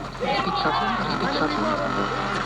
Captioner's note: static radio interference